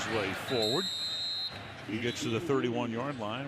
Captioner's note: whistle blowing